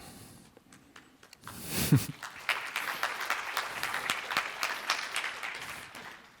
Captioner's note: applause